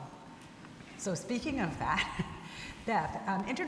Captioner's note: laughs